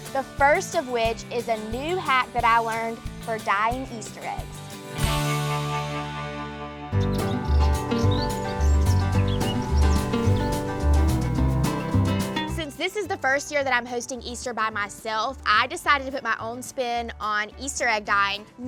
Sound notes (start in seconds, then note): 6.9 birds chirping; 7.1 upbeat country music